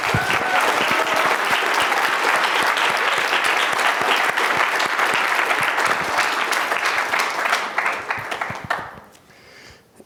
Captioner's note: applause